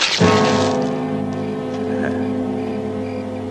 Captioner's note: chuckles